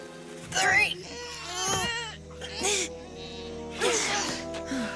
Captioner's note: grunting